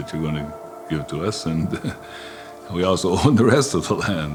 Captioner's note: chuckles